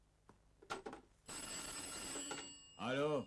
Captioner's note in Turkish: telefon çalar